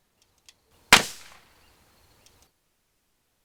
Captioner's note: gun fires